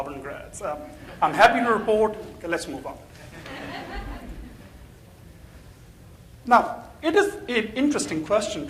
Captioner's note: crowd laughing in the background